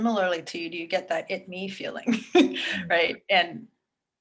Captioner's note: chuckles